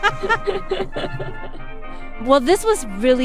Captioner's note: laughter